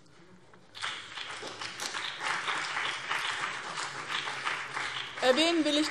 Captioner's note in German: Beifall BÜNDNIS 90/DIE GRÜNEN und CDU